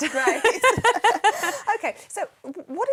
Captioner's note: laughing